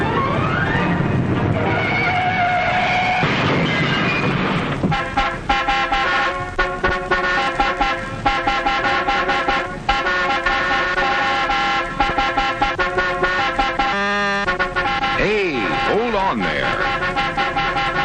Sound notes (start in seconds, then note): 1.6 brakes screeching; 2.4 crash!